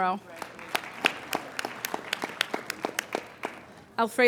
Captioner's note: applauding